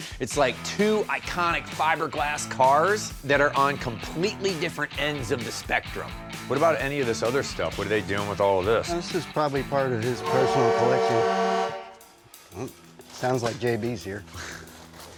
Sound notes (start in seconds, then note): 10.0 loud horn honking